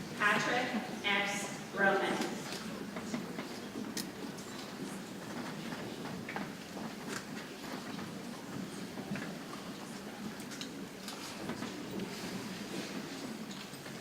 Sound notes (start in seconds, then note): 1.7 people chattering softly